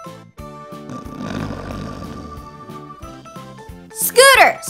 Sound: snoring

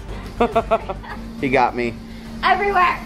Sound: laughing

